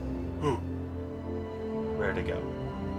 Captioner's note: gasp